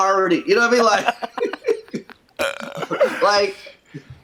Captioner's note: both laugh